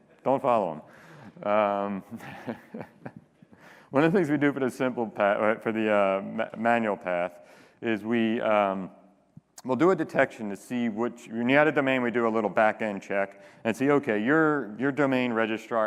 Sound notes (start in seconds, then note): 3.6 laughter